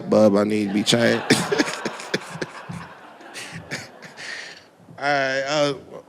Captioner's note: laughter